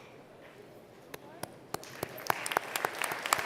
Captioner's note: applause